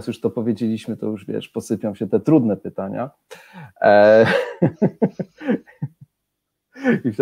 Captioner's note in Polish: śmiech